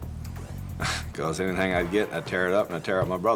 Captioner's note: chuckles